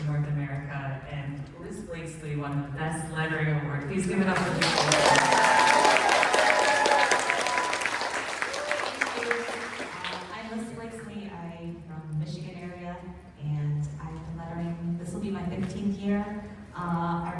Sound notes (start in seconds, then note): 4.3 applause